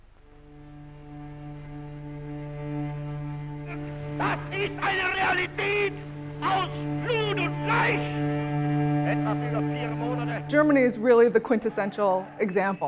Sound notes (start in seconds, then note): 0.1 poignant string music; 3.5 Hitler speaking German